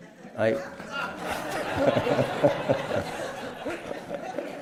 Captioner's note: laughter